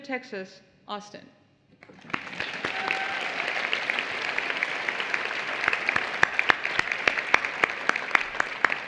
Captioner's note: applause